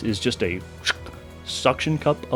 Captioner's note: shck